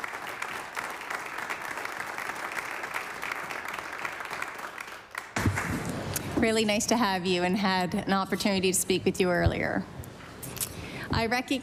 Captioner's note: applause